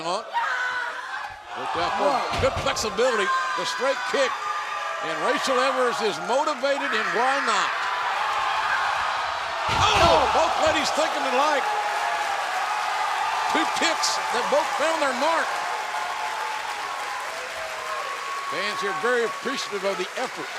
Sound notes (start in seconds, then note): 9.4 cheers and applause